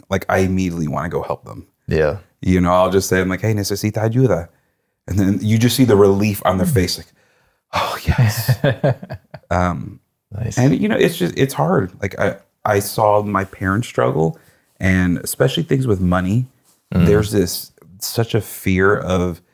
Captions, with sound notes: like I immediately wanna go help them. Yeah. You know, I'll just say, I'm like, hey, (speaking in foreign language) and then you just see the relief on their face like, oh yes. (laughing) Nice. And you know, it's hard. Like I saw my parents struggle and especially things with money, there's this such a fear of,